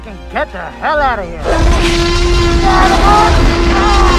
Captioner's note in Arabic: زئير T-rex بصوت عالٍ وشحن في Ford Explorer; أصوات اصطدام السيارة وصراخ الطاقم